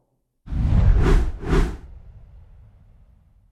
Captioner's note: air whooshes